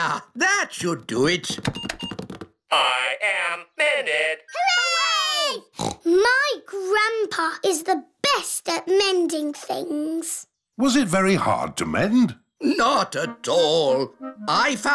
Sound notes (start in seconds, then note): 5.7 snorts